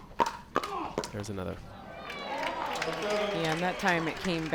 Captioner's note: crowd cheers